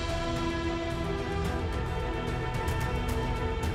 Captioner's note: clap